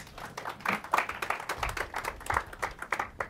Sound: applause

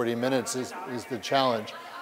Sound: background conversations

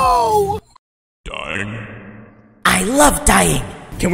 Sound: "DYING" echoes

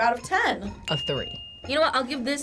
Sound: bell dinging

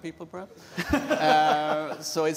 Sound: laughter

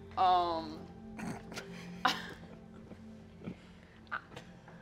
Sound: chuckling

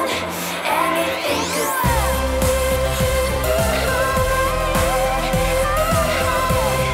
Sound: vocalizing Continues

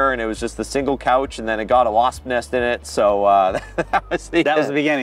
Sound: laughs

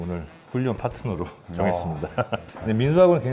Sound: laughter

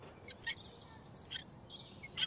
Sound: swing squeaks

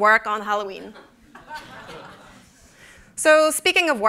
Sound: laughter

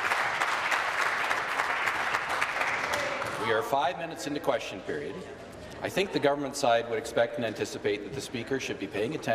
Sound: applause

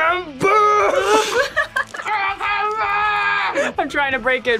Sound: laughs

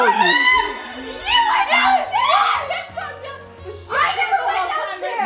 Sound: screaming

